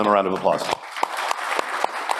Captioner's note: applause